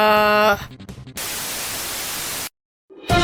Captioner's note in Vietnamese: TV nhiễu